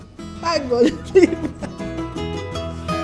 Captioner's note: laughs